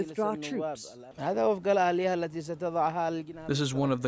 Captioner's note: through translator